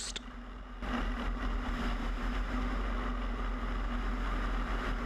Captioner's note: airplane engine rattling